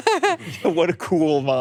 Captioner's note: laughing